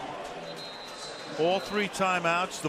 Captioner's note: whistle